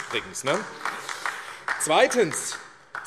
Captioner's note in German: Beifall AfD